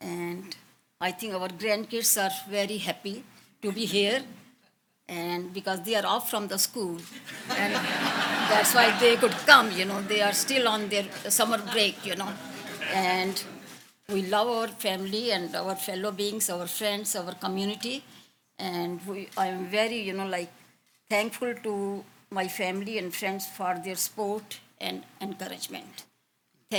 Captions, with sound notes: And I think our grandkids are very happy to be here, and because they are off from the school. (audience laughs) And that's why they could come, you know? They are still on their summer break, you know? And we love our family and our fellow beings, our friends, our community. And I am very, you know, like, thankful to my family and friends for their support and encouragement.